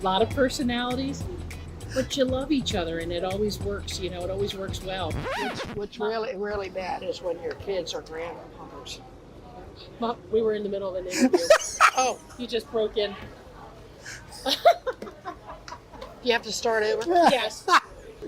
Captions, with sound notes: A lot of personalities, but you love each other, and it always works. It always works well. - What's really bad is when your kids or grandkids... - Mom, we were in the middle of an interview. (laughs) You just broke in. - Do you have to start over? - Yes.